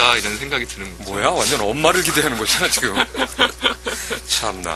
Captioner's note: burst out laughing